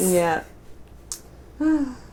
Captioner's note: tsk; sigh